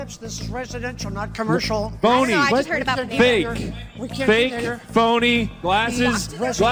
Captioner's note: chaotic Arguing